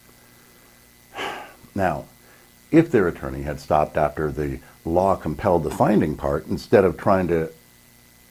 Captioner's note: sigh